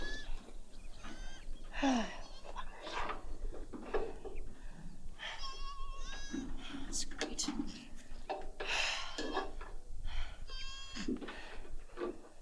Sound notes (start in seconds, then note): 1.0 panting; 1.7 huffing